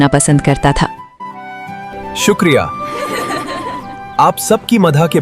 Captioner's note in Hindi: हंसी